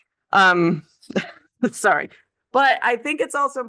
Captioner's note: chuckles